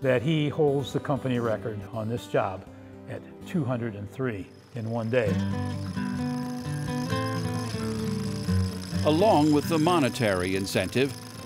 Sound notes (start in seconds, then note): 4.5 rattling